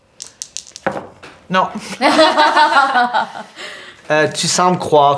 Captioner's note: Roxanne and Zara laugh